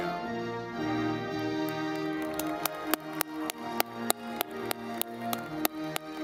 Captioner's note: audience clapping